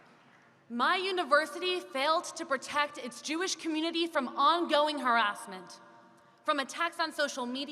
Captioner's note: applause